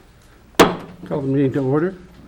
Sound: gavel banging

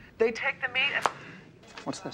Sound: phone snaps shut

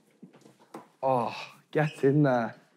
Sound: sighing

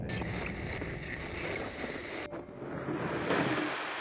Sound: static on radio

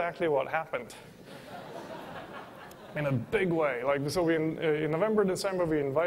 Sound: laughter

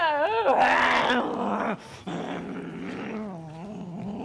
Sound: Sharik softly growling

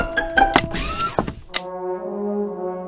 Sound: click

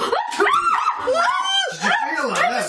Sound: screaming

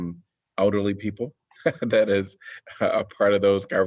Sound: laughter

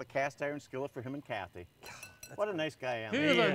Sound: metal dings

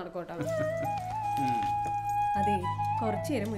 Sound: laughs

